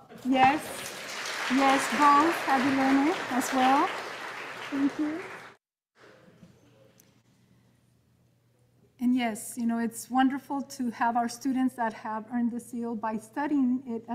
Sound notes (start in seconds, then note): 3.5 audience applauding